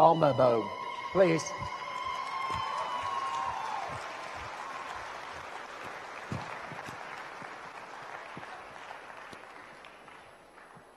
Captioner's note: audience cheers and applauds